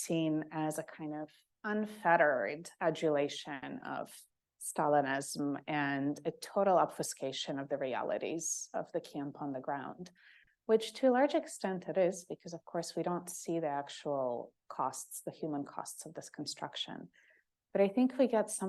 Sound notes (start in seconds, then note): none